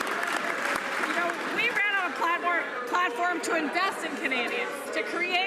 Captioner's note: some Applause